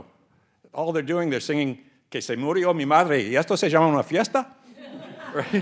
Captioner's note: speaks Spanish; audience laughing